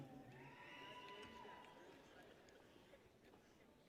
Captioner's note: people cheer